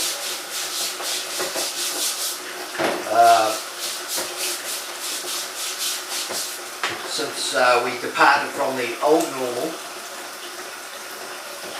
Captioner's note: scrubbiung dishes